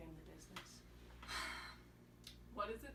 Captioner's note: sigh